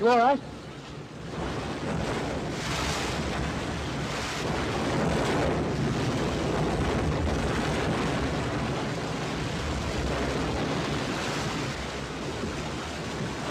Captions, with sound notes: Are you alright? (wind & waves)